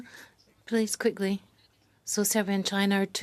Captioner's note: speaking French